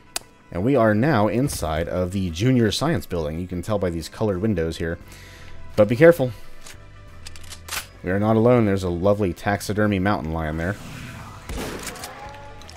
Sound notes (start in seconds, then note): 7.0 mag tap